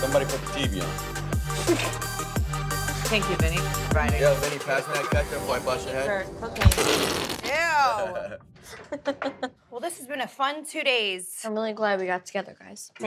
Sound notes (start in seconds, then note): 6.6 ketchup bottle squirting; 8.6 laughs